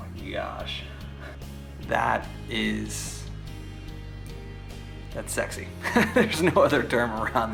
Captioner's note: laughs